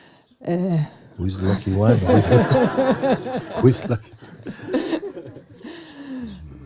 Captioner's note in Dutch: gelach